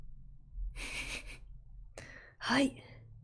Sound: laughs

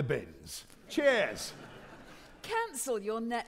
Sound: audience laughing

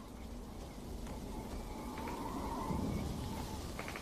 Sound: wind whistling

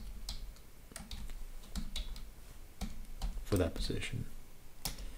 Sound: typing

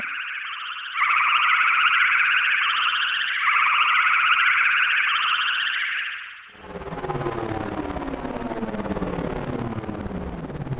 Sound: space ship flying sound

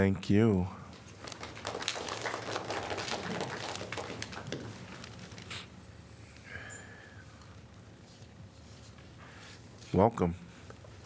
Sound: applause

